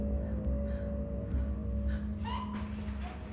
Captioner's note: Ellie breathing heavily; Ellie gasping softly